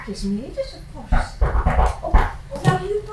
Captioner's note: knocking